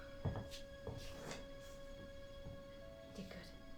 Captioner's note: footsteps